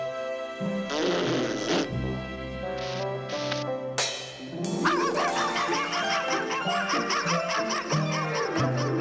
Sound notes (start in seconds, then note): 0.8 blows raspberry; 4.8 max barking